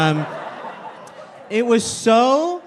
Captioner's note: crowd laughing